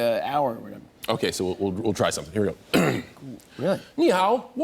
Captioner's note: clears throat; speaking Mandarin